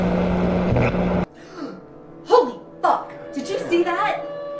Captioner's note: gasps